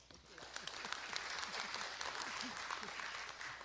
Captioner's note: applause